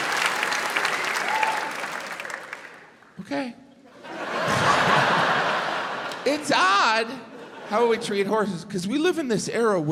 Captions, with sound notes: Okay. (crowd laughs) It's odd, how we treat horses 'cause we live in this era